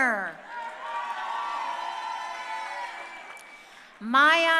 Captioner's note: crowd cheering